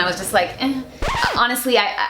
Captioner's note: record scratch